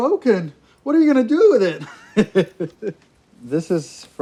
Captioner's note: laughs